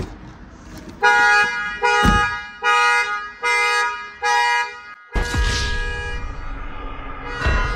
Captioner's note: car Alarm